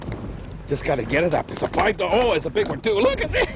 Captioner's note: groaning